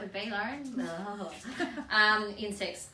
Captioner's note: laughs